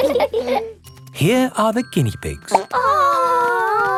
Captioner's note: laughing; plop